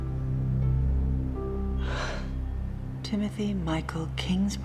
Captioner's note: exhales